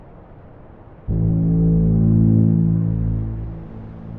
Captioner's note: horn blares